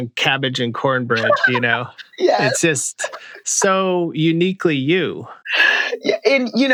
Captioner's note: laughter